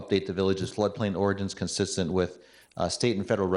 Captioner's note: none